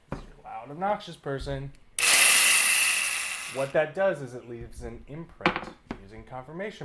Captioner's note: drill whirr